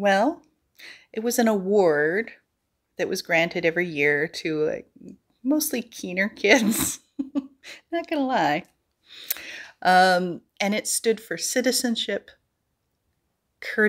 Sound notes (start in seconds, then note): 6.6 giggle